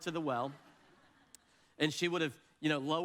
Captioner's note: audience laughs